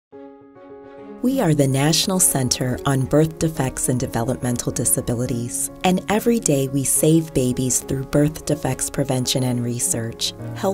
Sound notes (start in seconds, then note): 1.2 voiceover